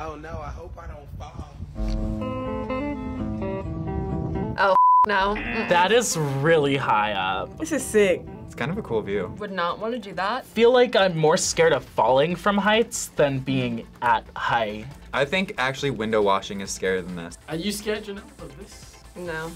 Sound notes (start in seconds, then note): 2.0 upbeat music; 5.2 buzzer rings